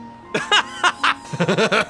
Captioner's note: laughs